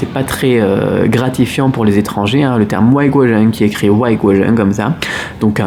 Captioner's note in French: chinois